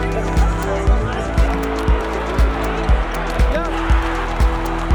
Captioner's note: crowd cheers